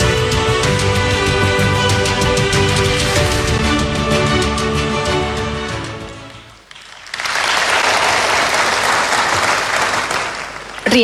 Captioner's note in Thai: ปรบมือ